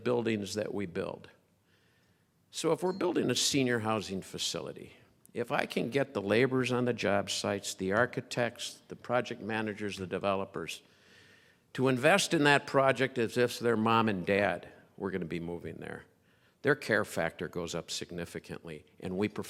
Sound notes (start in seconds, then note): none